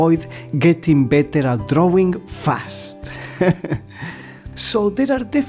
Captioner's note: laughter